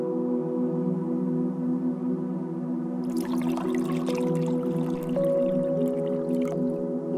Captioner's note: tea pouring; birdsong